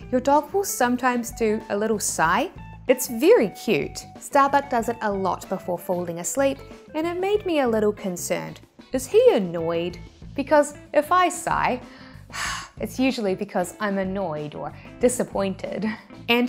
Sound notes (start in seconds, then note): 11.9 loud exhale